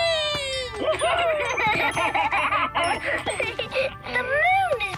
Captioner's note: laughing